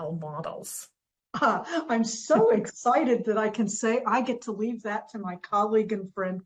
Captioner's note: laughs